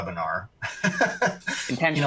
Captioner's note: laughs